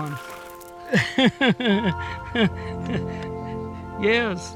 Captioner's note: laughing